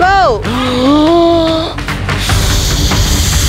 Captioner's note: breathing